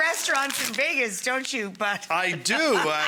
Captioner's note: laughs